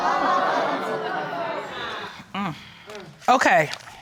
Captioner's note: courtroom exclaiming